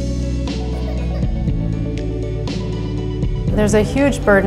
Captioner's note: child coughs